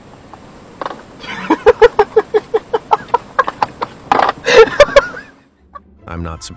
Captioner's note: laughter